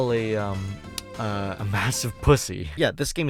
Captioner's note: smacks lips